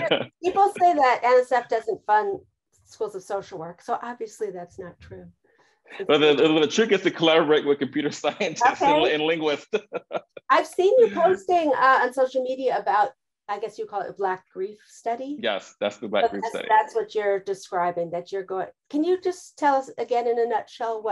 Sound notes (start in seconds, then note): 6.0 chuckles; 9.8 laughs